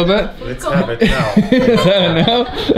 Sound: laughter

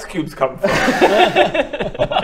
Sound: laughs

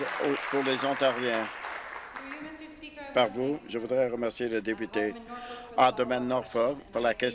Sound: applause

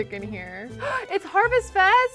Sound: gasps

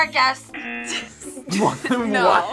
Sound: buzzer rings; buzzer; laughs

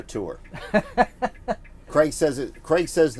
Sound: laughs

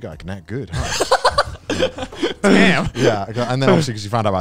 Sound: everyone laughs

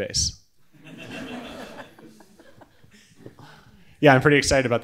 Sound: audience laughing

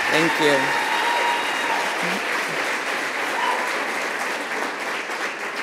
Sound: audience applauds and cheers

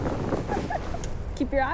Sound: laughing

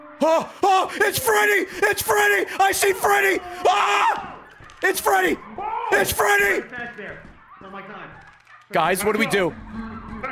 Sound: screams

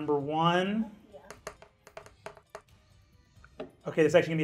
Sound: die rolling

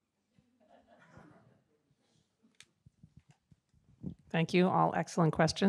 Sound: audience laughs

